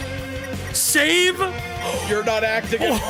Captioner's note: gasps